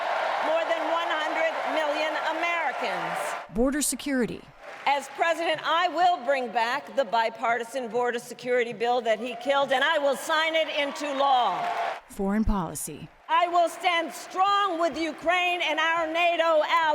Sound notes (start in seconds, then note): 3.4 applause; 3.4 cheering; 12.1 applause; 12.1 cheering